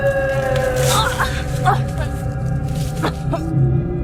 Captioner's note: Corrine grunting